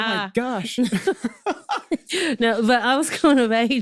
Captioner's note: both laughing